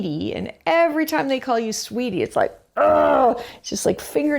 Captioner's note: grunting